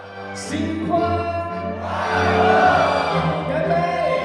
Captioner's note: everyone shouting together